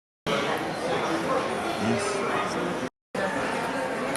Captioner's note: chattering